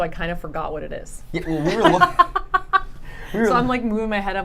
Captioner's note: laughing